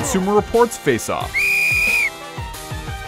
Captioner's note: whistling